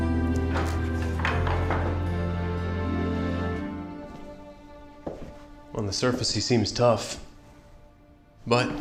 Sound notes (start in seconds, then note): 0.2 door opens; 3.8 footsteps